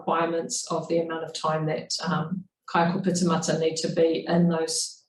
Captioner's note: speaking in foreign language